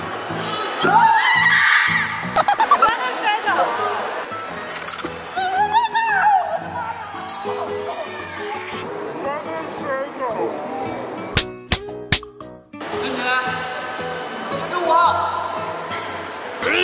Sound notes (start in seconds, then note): 0.8 the senior's screams fill the air